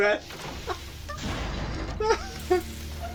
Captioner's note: inhales